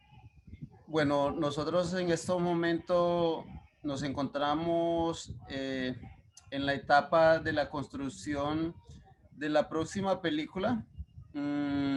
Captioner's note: speaking Spanish